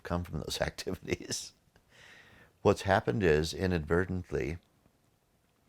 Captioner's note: laughing